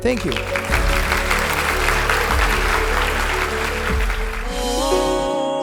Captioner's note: applause